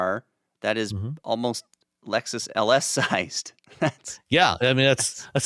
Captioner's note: chuckles